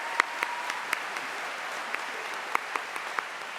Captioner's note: applause